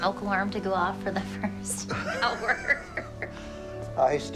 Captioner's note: both laughing